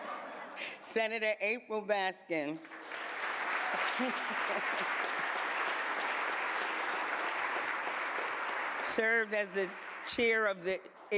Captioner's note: applause